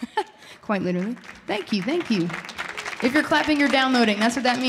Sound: audience applauding

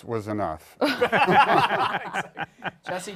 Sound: laughter

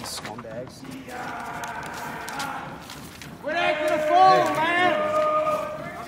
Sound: crowd chanting and yelling

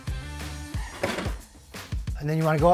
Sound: upbeat music continues; handle clicks

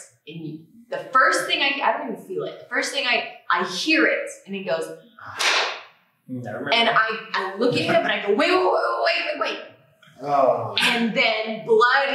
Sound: pop

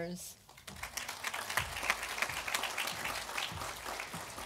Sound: audience applauding

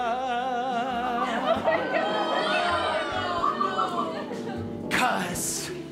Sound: audience freaks out

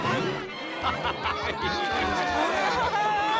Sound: laughing

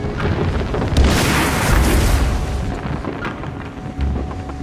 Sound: explosion booming

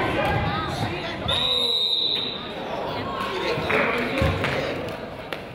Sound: whistle blows

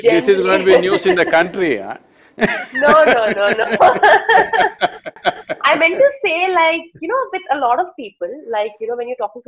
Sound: both laugh

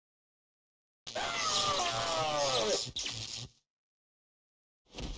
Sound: Web Spinner screams in pain

